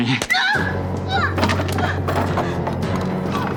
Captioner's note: groans